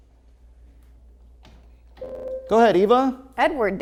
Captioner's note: ringing